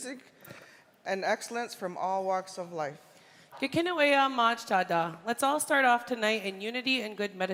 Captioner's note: speaking indigenous language